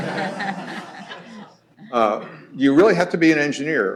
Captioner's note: laughter